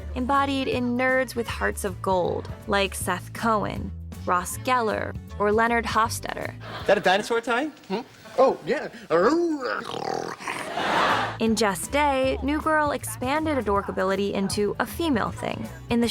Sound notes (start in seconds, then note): 9.1 mimicking dinosaur noises; 10.6 laughter